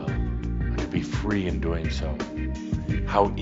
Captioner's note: none